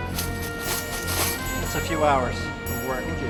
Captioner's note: coins rattling